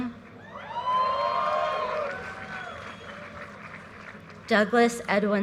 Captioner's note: audience cheers and applause